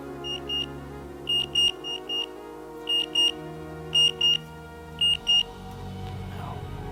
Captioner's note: beeping alarm